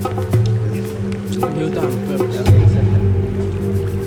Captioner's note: men speaking foreign language